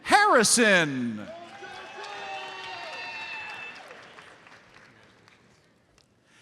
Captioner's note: audience applauds